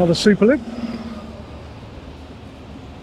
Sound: train engine roaring

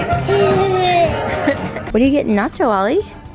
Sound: laughs

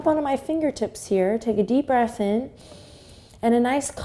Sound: inhale

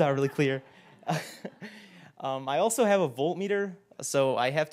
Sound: laugh

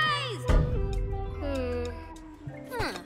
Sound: sighs

